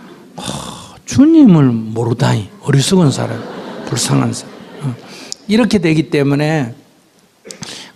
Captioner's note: audience Laughter